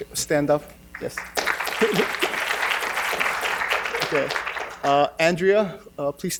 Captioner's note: audience applauding